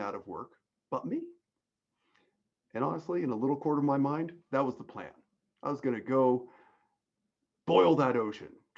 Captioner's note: none